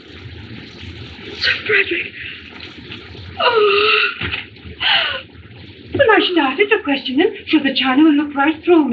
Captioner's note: moans